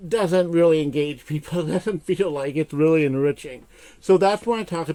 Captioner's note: chuckles